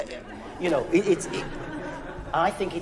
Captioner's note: orchestra musicians laughing